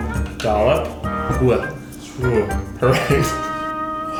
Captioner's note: laughs